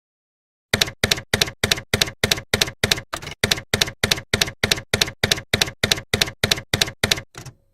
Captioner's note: typewriter keys clacking